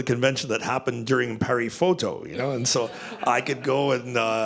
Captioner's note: laughter